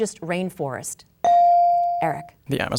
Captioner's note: bell dinging